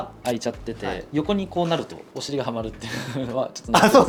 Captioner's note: laughs